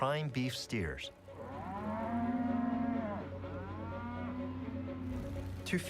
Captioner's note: mooing